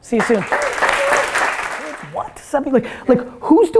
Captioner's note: audience applause